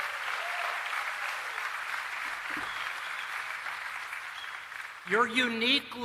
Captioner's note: applause